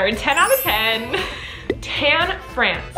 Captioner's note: giggles